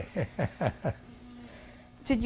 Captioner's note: laughs